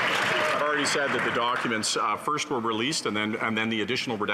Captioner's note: some Applause